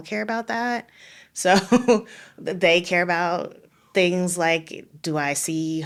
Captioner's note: laughing